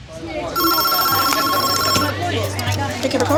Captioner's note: telephone ringing